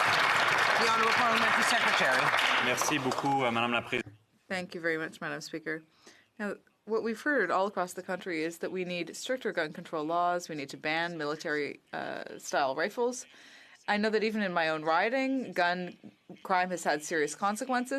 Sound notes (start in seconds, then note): 1.7 some Applause